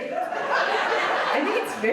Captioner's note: audience laughs